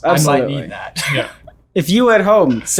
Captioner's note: laughs